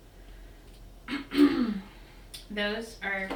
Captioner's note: coughs